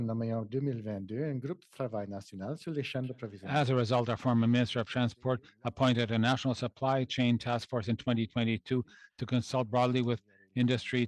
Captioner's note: speaking French